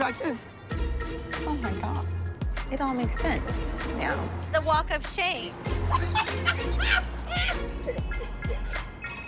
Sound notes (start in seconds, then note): 5.8 laughing